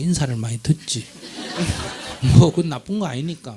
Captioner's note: audience Laughter